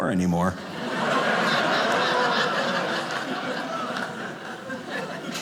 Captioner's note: audience laughing